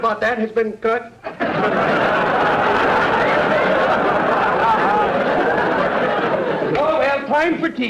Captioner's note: audience laughter